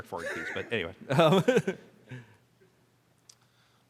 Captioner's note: laughs